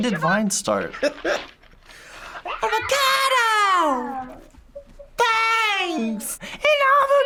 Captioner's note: laughs